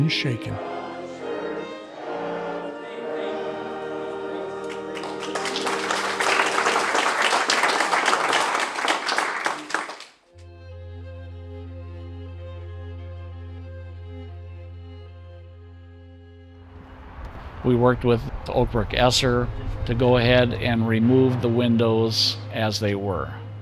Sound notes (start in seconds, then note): 8.6 congregation clapping; 13.8 light orchestral music